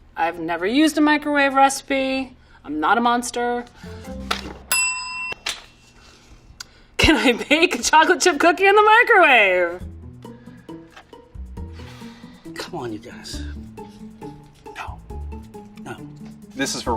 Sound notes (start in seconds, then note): 4.7 bell dings; 11.6 sighs